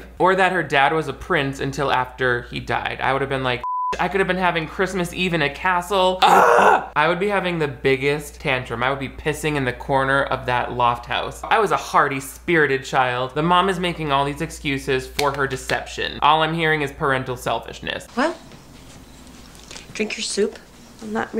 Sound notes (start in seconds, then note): 3.6 beep; 6.2 they scream